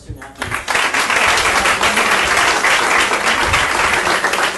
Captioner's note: audience applauding